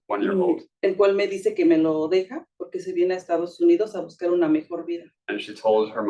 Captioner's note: speaking Spanish